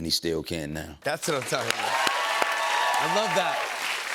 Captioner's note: cheers and applause